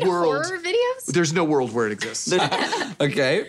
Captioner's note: laughing